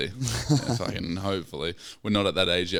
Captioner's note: laughing